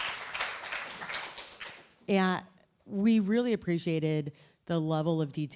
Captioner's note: applause